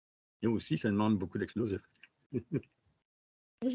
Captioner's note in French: rires